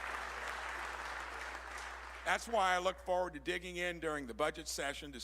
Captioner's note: applause